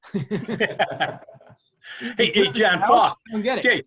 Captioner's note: laughs